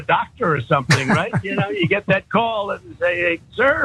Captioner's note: laugh